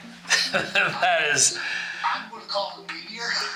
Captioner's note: laughs